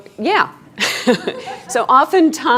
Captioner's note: laughing